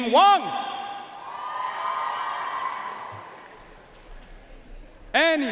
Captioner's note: audience cheering and applauding